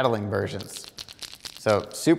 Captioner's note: lures rattle